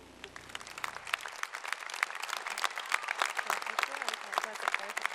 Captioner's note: applause